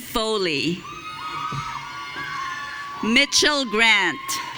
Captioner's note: audience cheering